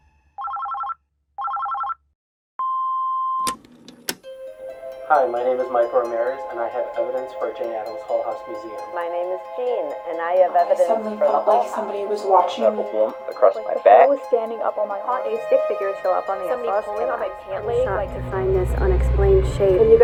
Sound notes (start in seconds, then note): 0.4 phone rings; 1.4 phone beeping; 4.0 gentle music